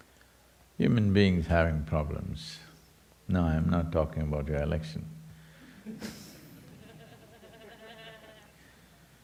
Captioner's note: laughter